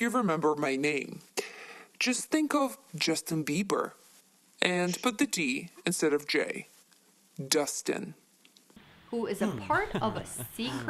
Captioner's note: laughter